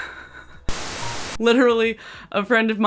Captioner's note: laughs; TV static